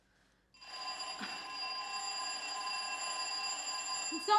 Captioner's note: ringing